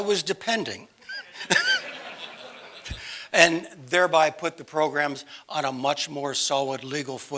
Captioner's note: laugh